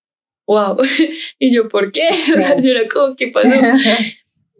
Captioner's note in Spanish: ríe